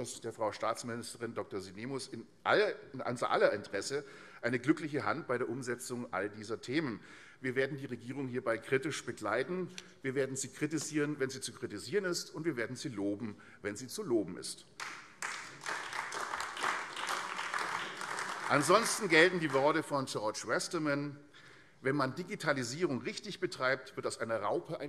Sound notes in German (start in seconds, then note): 14.7 Beifall AfD